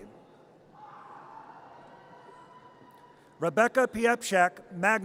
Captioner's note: audience cheers